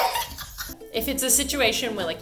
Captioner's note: laughing